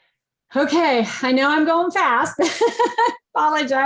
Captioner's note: laughs